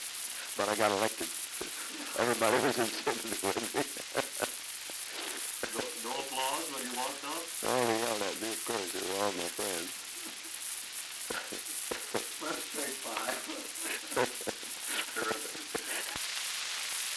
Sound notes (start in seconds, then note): 9.3 laughter; 14.2 production chatter